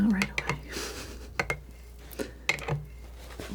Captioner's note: sniffling